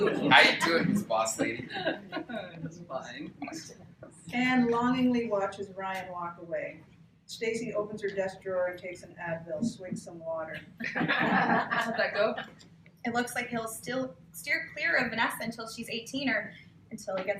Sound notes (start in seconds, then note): 10.6 laughter